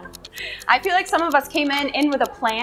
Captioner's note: laughs